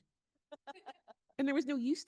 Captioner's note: laughing